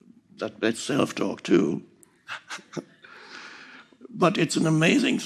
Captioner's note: chuckles